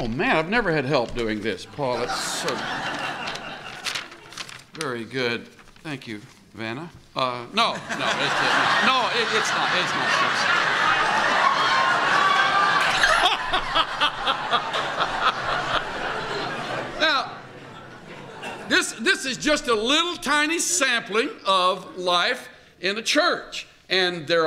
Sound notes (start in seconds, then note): 0.8 rustles paper; 7.6 laughter